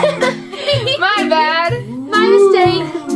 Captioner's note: laughter